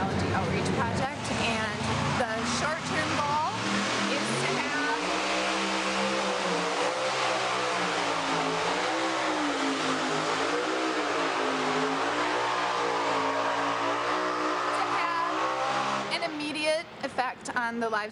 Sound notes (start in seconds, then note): 4.9 tractor engine revving